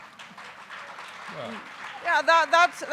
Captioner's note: audience applauding